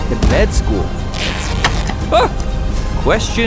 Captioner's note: cannon shot, wood splintering, cannon shot, sails tear; surprised yelp